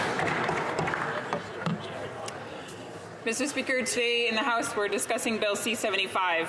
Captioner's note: some Applause